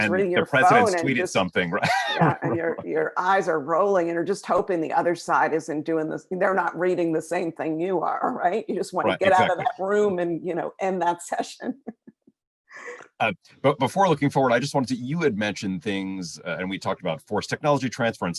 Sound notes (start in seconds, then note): 2.5 laughs; 12.7 laughs